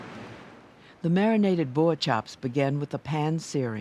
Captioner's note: voiceover